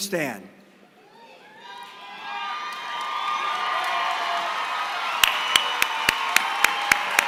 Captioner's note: applause